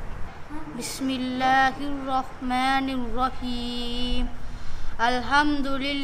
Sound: reading arabic

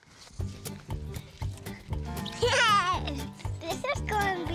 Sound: giggling

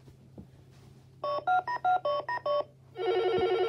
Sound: dialing noises; phone ringing

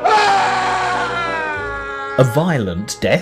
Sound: man screaming

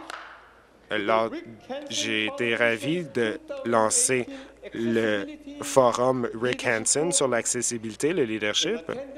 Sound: applause

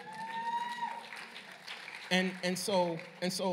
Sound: cheering and applause

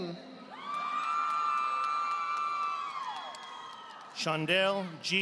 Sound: audience applauding

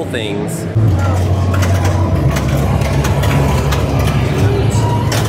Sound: pinball machines clicking

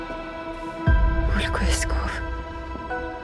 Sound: speaking in Elder

